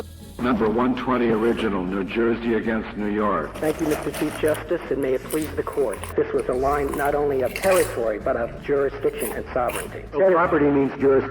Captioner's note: popcorn crunching loudly over Supreme Court recording